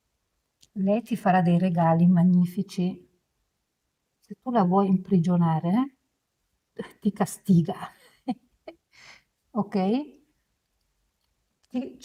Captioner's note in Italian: risate